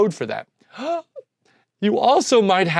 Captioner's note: gasps